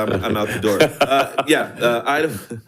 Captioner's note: board Members laughing